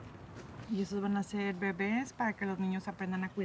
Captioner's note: speaking spanish